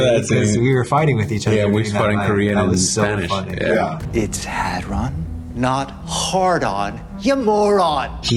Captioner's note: none